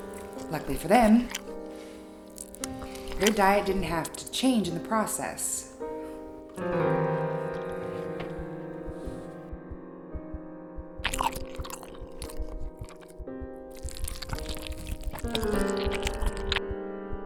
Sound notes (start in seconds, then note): 9.1 heart beat thudding; 11.2 squishing